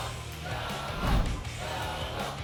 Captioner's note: whoosh; audience chanting "double!"